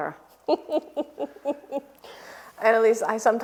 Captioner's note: Clementina laughs